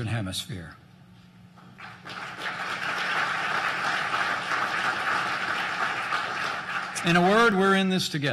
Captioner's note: applause